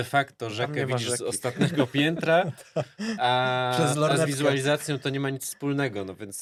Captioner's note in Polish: śmiech